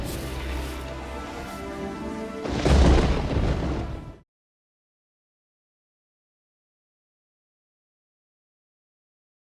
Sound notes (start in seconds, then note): 0.0 gentle music; 2.4 thunder rumbles